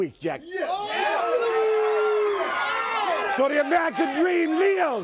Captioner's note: crowd cheering